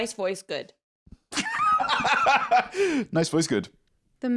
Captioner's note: laughs